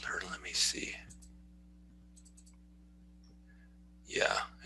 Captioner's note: sound of mouse clicking